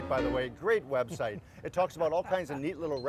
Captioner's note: laughs